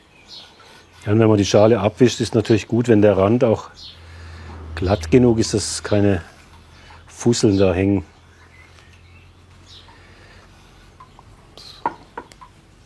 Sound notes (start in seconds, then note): 10.2 birdsong